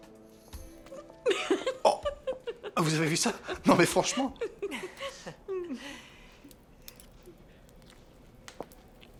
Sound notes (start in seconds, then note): 0.9 laughter